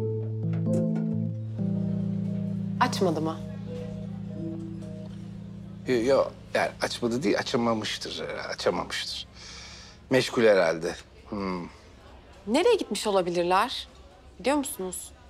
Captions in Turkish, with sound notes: (Meşgul tonu) Açmadı mı? Yok, açmadı değil, açamamıştır. Açamamıştır. Meşgul herhâlde. Nereye gitmiş olabilirler? Biliyor musunuz?